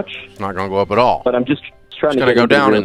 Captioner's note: man voice on a call